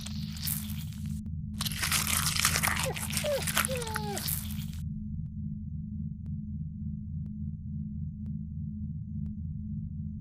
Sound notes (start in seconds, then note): 4.1 whimpering